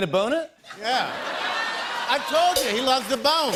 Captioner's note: laughter